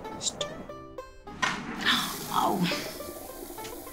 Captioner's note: Flushing